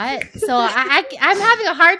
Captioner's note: laughs